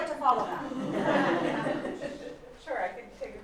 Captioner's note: laughter